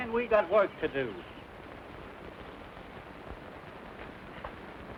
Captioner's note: birds chirping